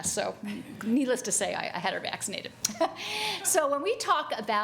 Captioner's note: chuckles